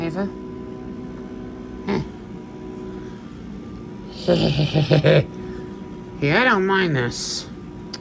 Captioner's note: giggles